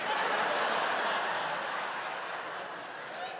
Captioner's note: laughter